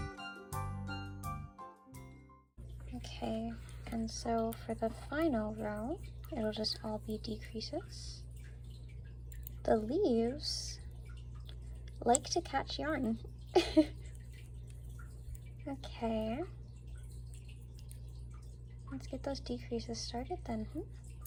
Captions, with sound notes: [Music fades out] Okay, and so for the final row, it'll just all be decreases. The leaves like to catch yarn! [laughter] Okay, let's get those decreases started then, hm?